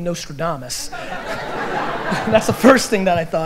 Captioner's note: audience laughter